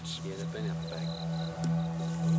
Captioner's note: indistinct chatter